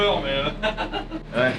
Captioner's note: laughs